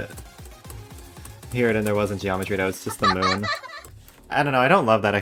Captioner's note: laughter